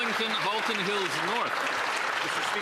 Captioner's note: applause